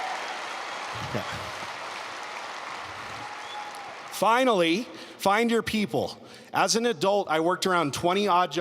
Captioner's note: applause